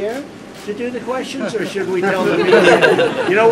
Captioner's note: laughter